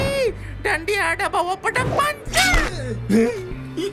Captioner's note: none